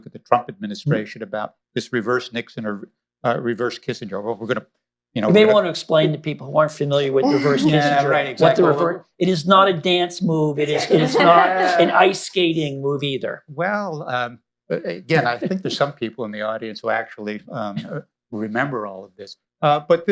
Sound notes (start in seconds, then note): 10.6 laughter